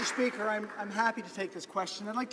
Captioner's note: some Applause